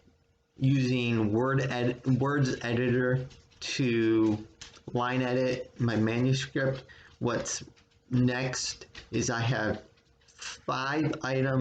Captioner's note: continued pattering of dog nails against hardwood floor